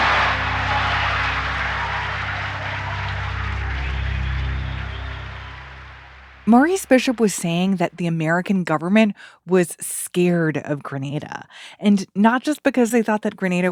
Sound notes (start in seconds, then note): 5.0 applause